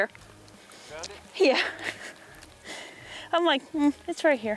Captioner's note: chuckling